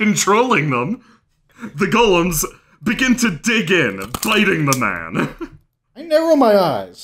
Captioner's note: crunching